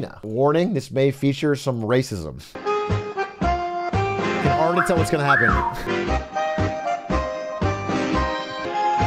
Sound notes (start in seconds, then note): 4.5 whistles